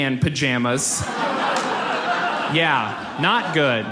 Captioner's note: audience laughs